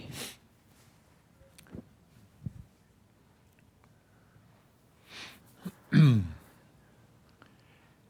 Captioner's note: clears throat; clears throat again